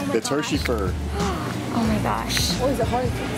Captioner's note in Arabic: الشهقات